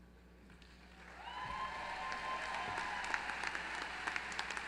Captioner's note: applause